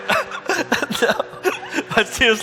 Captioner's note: laughing